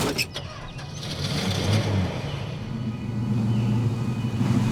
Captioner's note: engine cranking